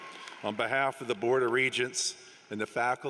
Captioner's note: applause